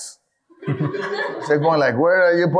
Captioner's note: audience laughing